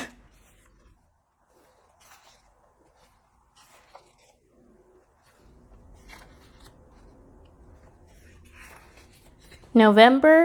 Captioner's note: flipping Pages